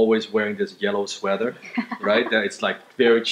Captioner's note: laughs